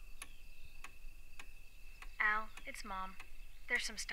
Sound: clock ticking; voice message

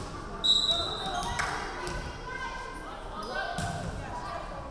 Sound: referee whistling

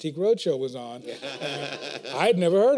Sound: laughter

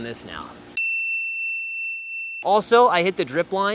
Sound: bell dinging

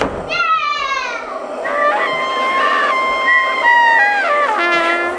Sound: children making noise

